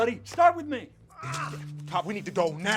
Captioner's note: Ray groaning